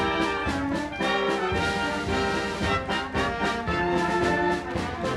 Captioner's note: audience applauding